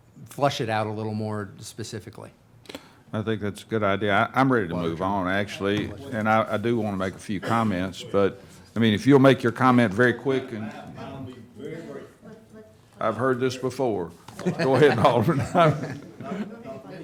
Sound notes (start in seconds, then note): 14.3 chuckling